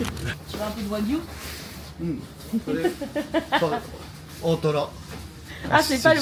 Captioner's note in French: rires